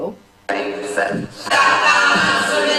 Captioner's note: chanting